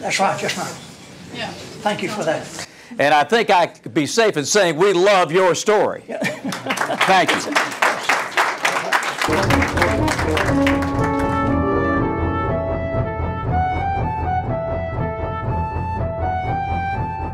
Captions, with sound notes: That's right. Yes ma'am. Thank you for that. And I think I can be safe in saying that we love your story! (clapping/laughter).